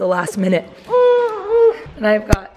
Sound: baby groaning

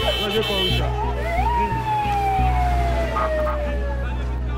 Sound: horn honking; siren wailing

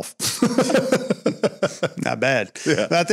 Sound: laughter

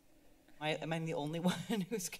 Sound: laughs

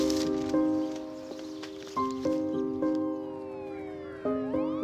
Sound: birds chirping

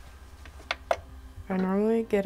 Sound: button clicks

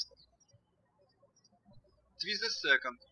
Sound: birds chirping

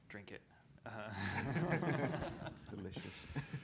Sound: laughter

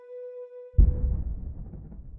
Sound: faint boom

